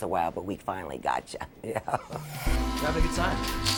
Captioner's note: chuckles; upbeat music